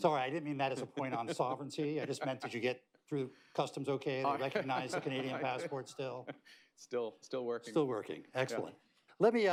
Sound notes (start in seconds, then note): 0.7 laughter; 4.4 laughter